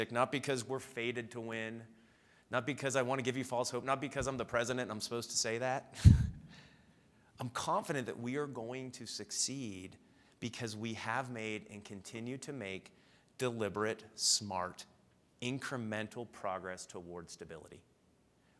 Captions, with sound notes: not because we're fated to win, not because I wanna give you false hope, not because I'm the president and I'm supposed to say that. (laughs) I'm confident that we are going to succeed because we have made and continue to make deliberate, smart, incremental progress towards stability.